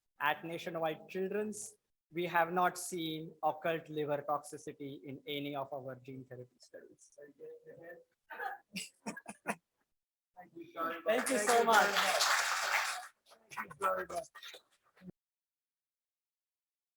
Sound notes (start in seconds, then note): 10.0 laughs; 13.2 audience clapping